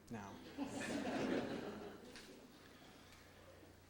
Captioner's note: audience laughs